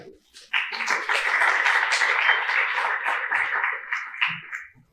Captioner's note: applause